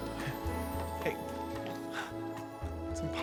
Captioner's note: scoffs